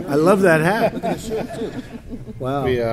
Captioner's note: laughter